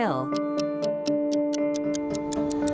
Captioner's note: clock ticking